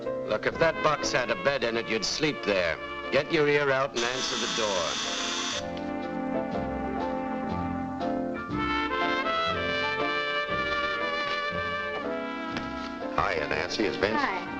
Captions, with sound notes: - Look, if that box had a bed in it, you'd sleep there. Get your ear out and answer the door. (doorbell buzzes) (gentle music) - Hiya, Nancy, is Vince--